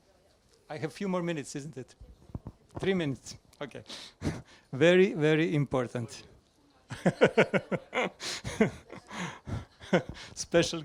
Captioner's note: laughs